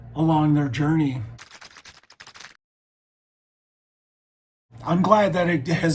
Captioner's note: keyboard typing